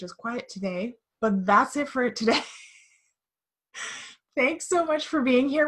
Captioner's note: chuckling